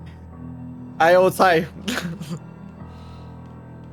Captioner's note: laughter